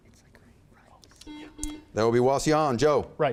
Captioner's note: buzzer beeps